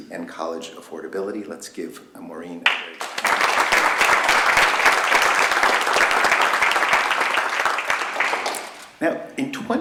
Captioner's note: applause